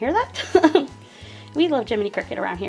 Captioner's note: laughing